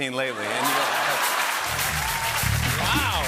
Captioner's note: laughter